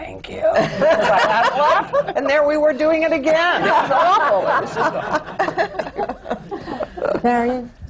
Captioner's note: laughter